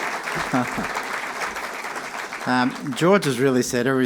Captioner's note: applause and cheering; chuckling